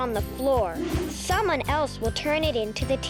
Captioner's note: air whooshing